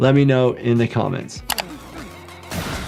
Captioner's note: screen clicking; guns blasting